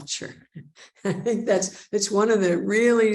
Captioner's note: chuckles